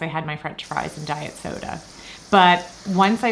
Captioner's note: potatoes sizzling